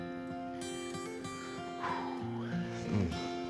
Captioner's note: sighs